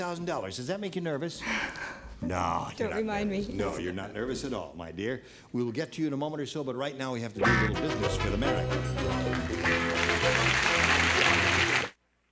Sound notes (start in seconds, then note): 8.7 applause